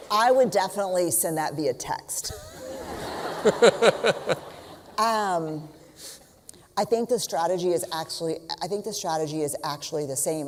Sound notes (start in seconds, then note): 2.3 laughter